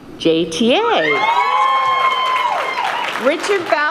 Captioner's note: cheering